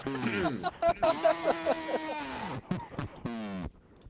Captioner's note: laughter